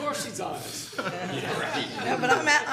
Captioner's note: people laughing